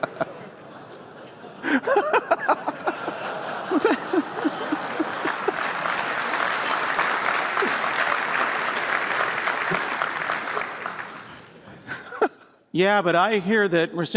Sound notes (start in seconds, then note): 0.0 laughter; 3.8 applause